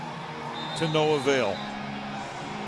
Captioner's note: whistle